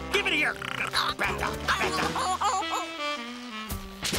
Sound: muffin whimpers

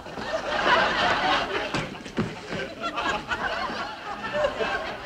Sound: audience laughing

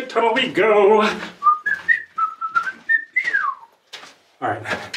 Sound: whistling

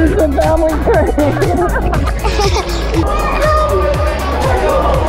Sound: laughs

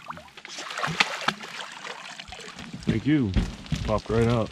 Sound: fish splashing

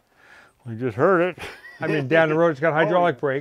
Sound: laughs

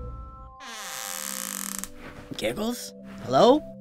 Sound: none

